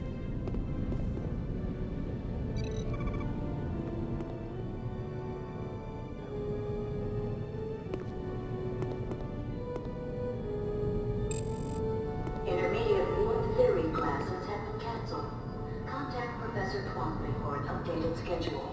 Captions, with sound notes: (phone ringing) Intermediate, more theory classes have been canceled. Contact Professor Twomprey for a help gauge and schedule.